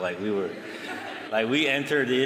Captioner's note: laughter